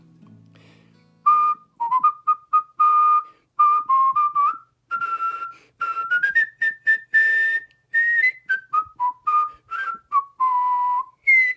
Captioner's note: whistling a tune